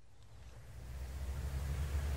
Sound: car sound

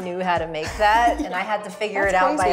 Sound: laughs

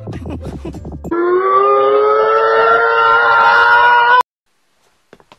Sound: fast heartbeat; shout

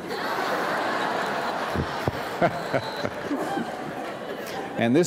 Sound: laughter

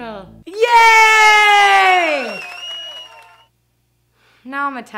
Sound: recorded applause

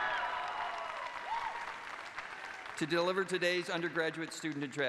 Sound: cheers and applause

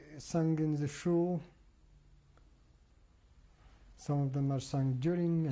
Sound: pauses for 3 seconds

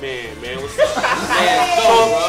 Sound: laughter

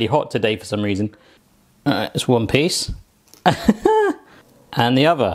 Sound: laughs

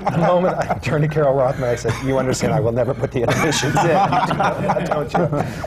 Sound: laughter

